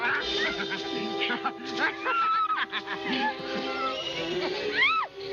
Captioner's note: chuckling; chirping